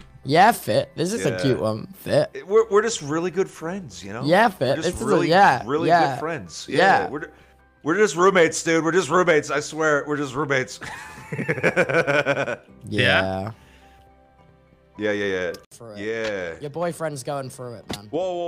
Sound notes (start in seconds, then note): 10.8 laughs